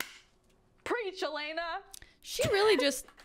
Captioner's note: claps